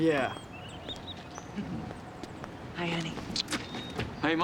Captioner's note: laughs